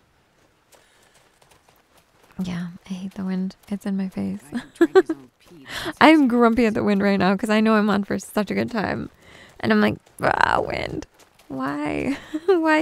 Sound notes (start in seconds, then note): 4.5 giggles